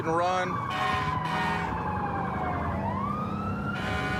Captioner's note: emt sirens blaring